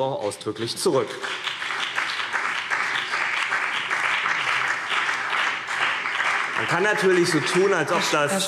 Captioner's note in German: Beifall CDU und BÜNDNIS 90/DIE GRÜNEN